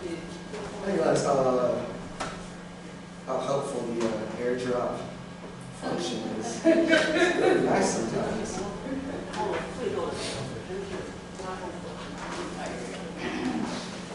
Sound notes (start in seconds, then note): 8.3 laughter